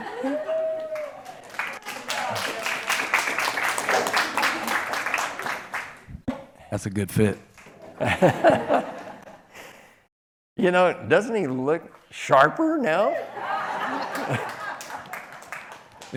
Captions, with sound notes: (applause) - That's a good fit. (crowd laughing) - You know, doesn't he look sharper now? (crowd laughing)